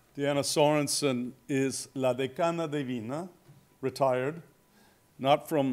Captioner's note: spanish